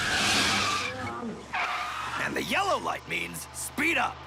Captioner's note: tires screeching